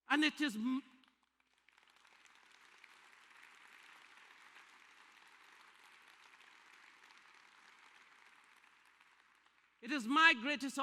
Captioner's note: applause